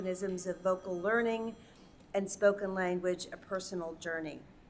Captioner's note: phone ringing